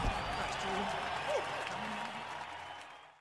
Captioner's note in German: Jubel